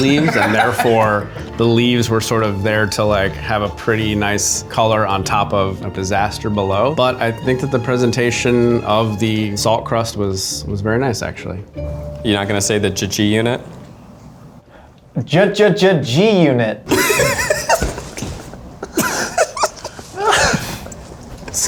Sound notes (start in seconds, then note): 13.3 stuttering; 15.5 stuttering; 16.9 laughing